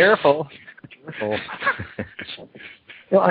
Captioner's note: laughter